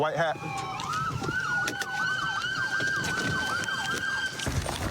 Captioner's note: siren wailing